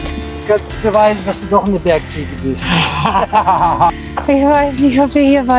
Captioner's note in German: schnauben